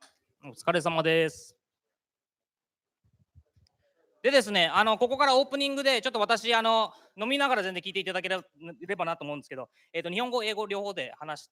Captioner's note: speaking japanese